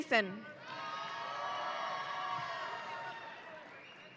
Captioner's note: audience cheering